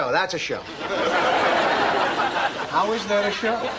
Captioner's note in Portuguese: risadas